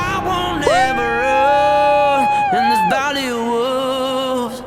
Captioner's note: man whoops